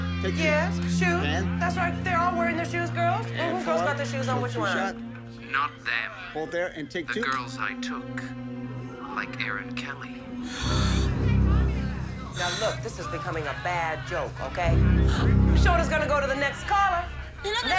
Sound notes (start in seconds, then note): 10.4 gasps